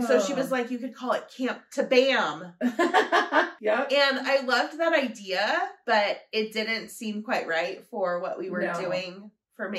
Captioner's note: laughter